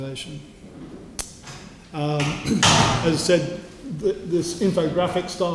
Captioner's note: cough